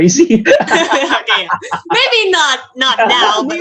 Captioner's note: laughs